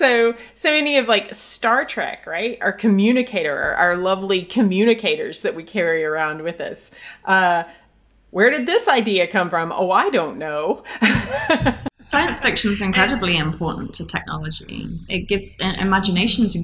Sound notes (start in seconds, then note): 10.9 laughs